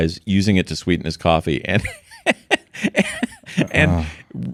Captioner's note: laughing